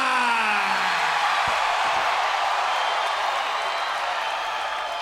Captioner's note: crowd cheering